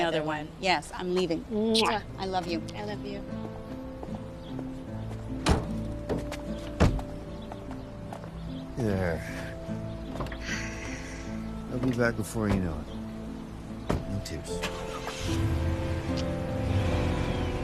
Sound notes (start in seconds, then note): 10.3 sighing; 14.5 engine revving